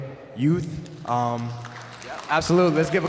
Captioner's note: applause